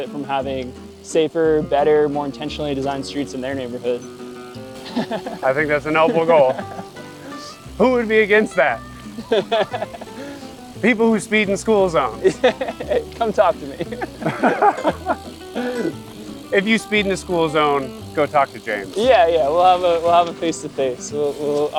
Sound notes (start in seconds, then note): 4.7 laughing; 9.0 laughing; 12.5 laughs; 14.1 people laughing